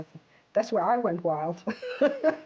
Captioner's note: laughs